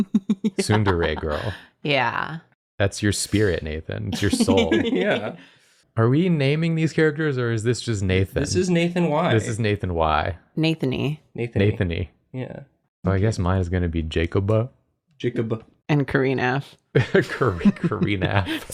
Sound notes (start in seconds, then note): 4.1 laughs